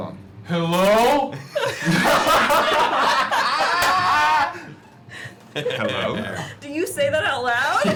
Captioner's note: yelling; laughter